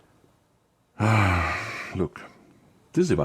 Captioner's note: sigh